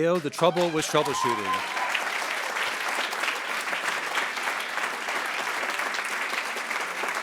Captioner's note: attendees cheering and applauding